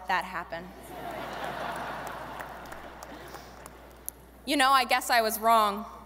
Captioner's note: audience laughing